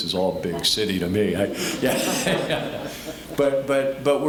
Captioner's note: all laughing